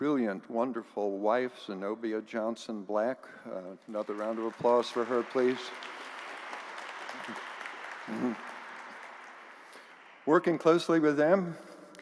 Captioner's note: applause